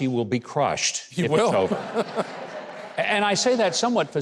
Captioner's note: laughs